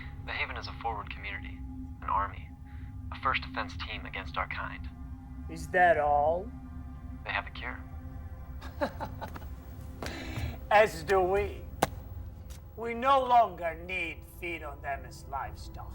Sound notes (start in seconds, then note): 8.6 Marcus laughing; 9.0 solemn music continues